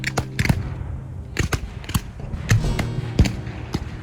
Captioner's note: guns fire